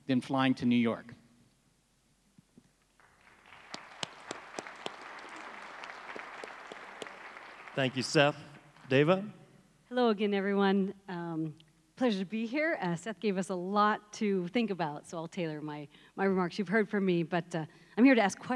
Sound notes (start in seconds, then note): 3.0 crowd applauds